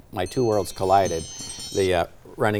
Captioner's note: alarm chiming